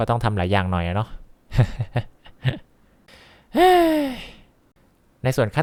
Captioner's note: sigh